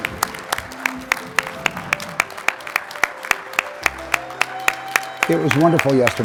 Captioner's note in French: applaudissements